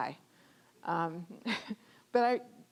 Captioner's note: chuckling